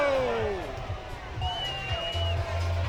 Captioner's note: cheering